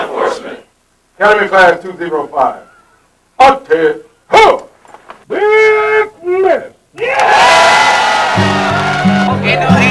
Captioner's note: cheering; shouting